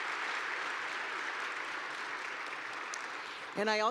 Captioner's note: applause